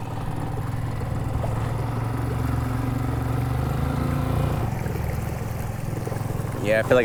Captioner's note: engine chugging; water sloshing